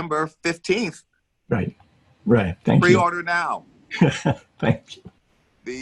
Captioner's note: laughing